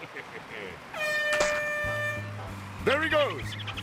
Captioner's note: air horn blows